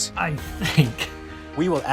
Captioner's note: laughs